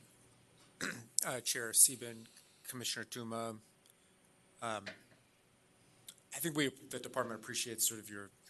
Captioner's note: clears throat